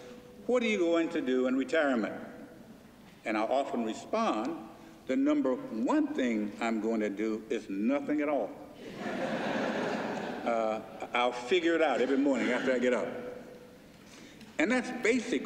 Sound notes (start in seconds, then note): 8.8 laughter